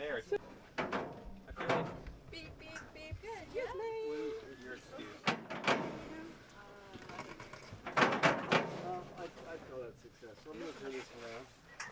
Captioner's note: small talk, bangs emanating from truck, mesh and tarp covers unfolding